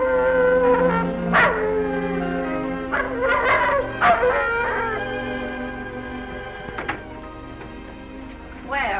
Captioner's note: howling